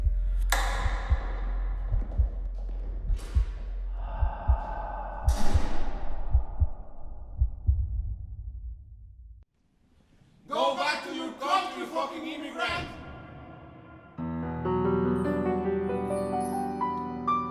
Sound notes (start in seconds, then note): 0.1 lights click; 4.0 sigh